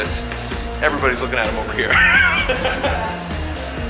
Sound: laughs; energetic music

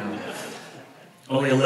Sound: audience laughs

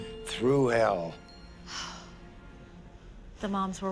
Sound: sighs

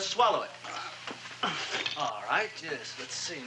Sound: spitting

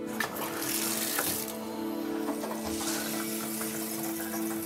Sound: water splashing

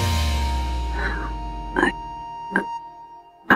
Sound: Ananya gasps

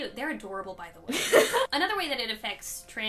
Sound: laughs

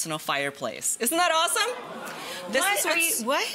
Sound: audience exclaiming

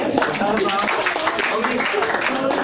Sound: clapping, talking; laughter

